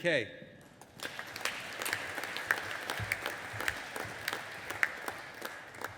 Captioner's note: audience applauding